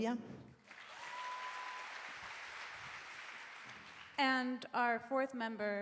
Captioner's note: audience applauding